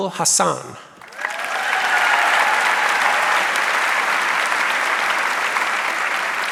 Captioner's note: audience cheering and applauding